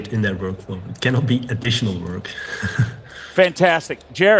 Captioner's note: laughs